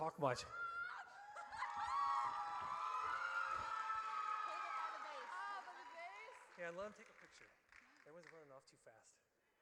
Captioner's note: audience cheers